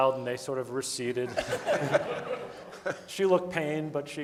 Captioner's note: audience laughing